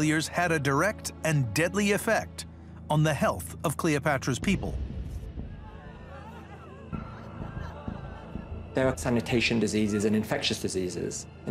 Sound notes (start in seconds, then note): 5.0 gentle suspenseful music; 5.4 crowd wails